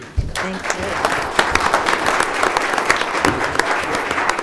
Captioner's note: audience applauds